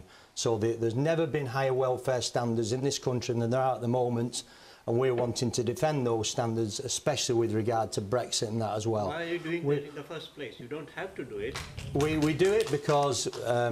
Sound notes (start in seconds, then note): 11.4 applause